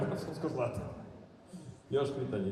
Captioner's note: laughing